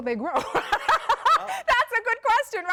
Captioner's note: laugh